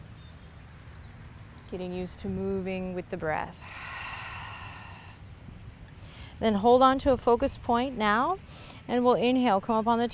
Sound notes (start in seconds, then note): 3.6 exhales